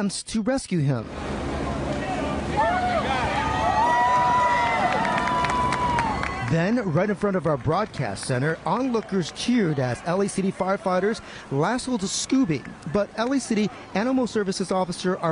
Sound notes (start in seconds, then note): 12.2 cheers and applause